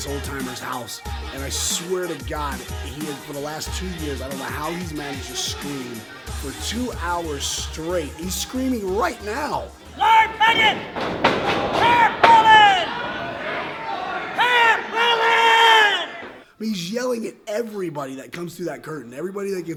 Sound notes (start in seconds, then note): 9.9 old man screaming